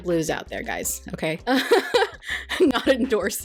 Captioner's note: laughs